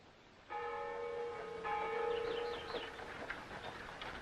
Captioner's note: bell tolls